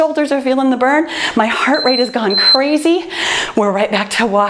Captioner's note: timer beeps